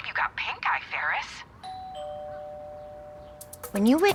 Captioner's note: doorbell